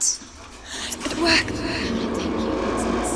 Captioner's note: gasp